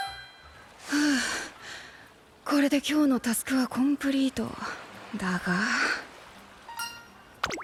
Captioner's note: sigh